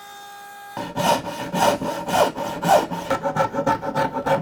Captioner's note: slow sawing; rapid sawing